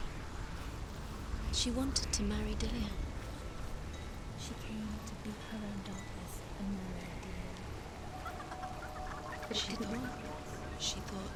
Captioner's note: laughs